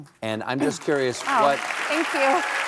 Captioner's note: applause